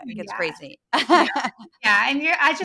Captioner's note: laugh